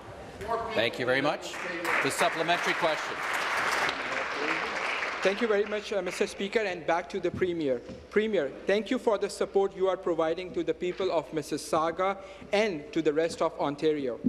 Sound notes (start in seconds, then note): 5.8 applause